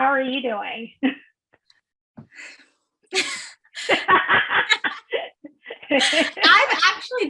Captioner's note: laughs